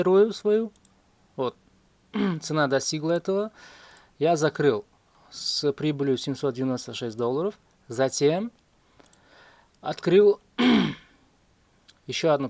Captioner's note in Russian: откашливается